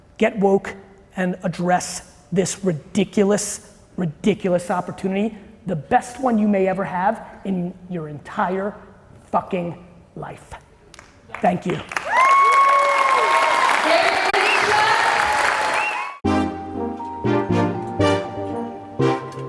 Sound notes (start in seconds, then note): 11.7 audience cheering and applauding loudly; 16.2 light jazz music